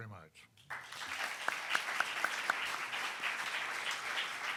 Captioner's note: audience applauding